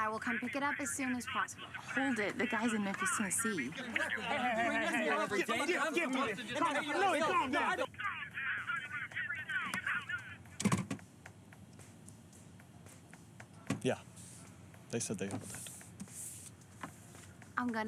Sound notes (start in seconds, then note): 7.1 yelling